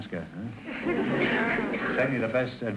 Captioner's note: audience laughter